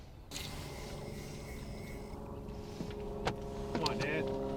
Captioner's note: aircraft droning